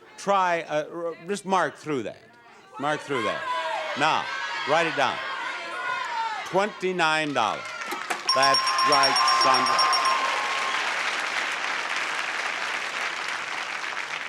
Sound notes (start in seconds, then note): 7.9 bell dings repeatedly; 10.9 audience cheers